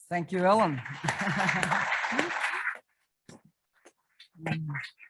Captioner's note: audience applauds